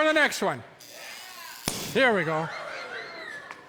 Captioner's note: electricity sizzles, cork pops, audience yelps